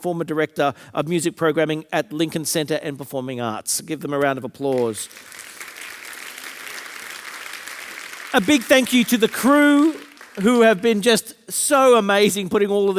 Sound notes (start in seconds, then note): 4.7 audience applauding